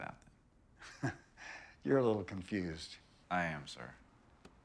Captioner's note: chuckles